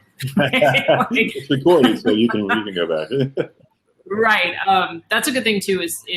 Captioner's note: laughter